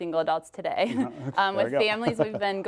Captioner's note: laughs